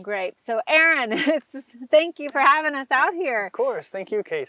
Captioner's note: chuckles